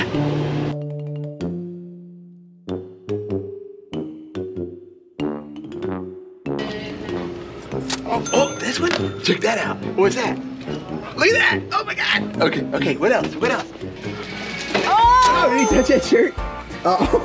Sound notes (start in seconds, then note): 0.1 quirky music; 8.2 register dings; 15.6 register dings